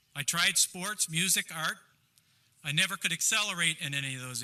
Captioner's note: none